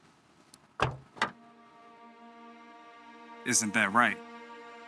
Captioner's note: boot opening